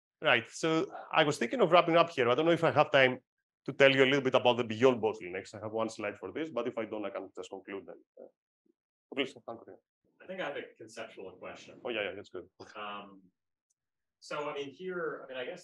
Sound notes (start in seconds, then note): 9.4 faintly speaks